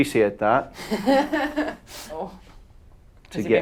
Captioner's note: laughing